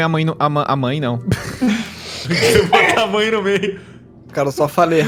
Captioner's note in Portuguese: risadas